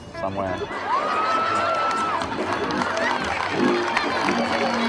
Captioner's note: audience laughing